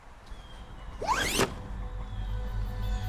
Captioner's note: zipper whizzes; ominous music